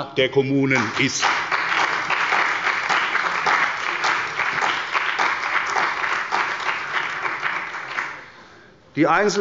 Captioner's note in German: Beifall bei der CDU und dem BÜNDNIS 90/DIE GRÜNEN